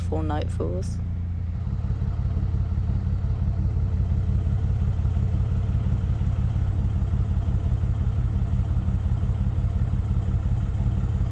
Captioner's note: narrowboat engine sounds